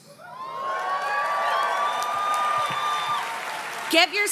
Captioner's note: audience cheers and claps